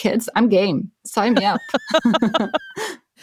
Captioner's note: laughs